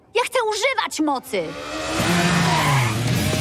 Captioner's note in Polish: odgłos motocykla